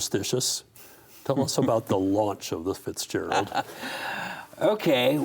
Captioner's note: laughs